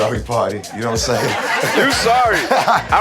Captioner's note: crowd laughing